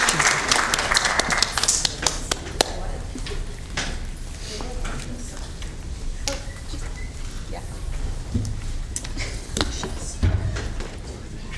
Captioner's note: applause